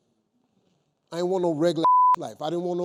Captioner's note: beep